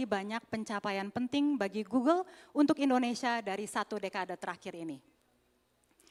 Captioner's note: none